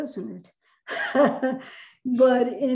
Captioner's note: laughs